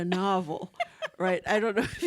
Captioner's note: laughing